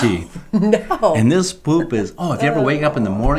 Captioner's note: laughing